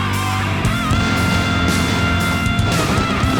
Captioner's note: explosion; gunfire